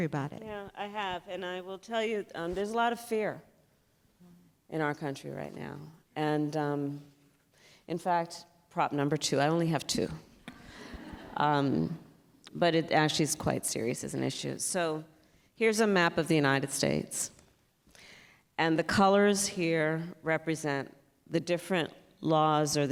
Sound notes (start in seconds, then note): 10.5 laughter